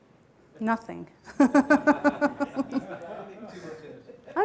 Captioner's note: laughs